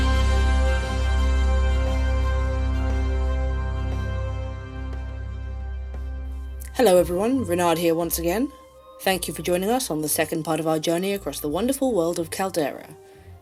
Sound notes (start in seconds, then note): none